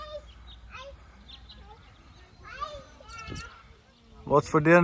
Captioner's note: person shouting